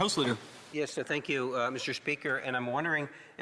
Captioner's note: speaking French